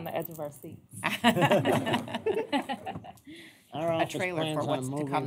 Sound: laughter

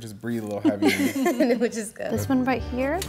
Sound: women laughing

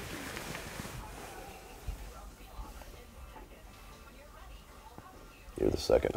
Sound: television voices talking faintly

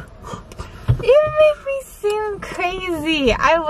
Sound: none

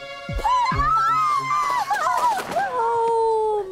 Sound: Catherine screams

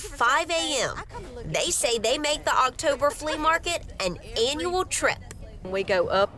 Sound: laughter

